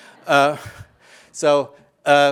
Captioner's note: audience laughing